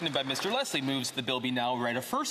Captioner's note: some Applause